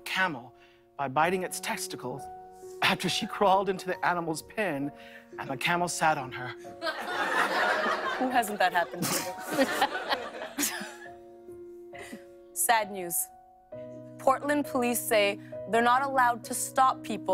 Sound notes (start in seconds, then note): 6.8 laughter